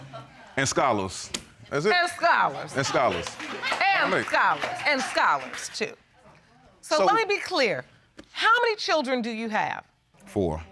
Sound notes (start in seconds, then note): 2.6 laughter